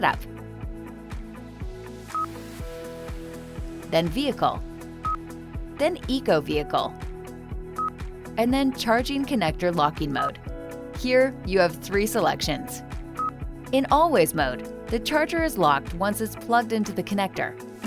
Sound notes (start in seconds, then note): 0.2 upbeat music; 2.1 beep; 5.0 beep; 7.8 beep